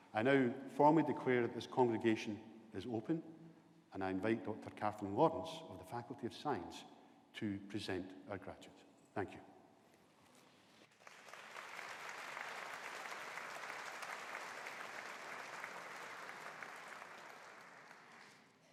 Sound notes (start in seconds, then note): 10.9 audience applauding